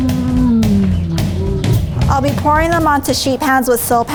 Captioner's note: bear groans; drum music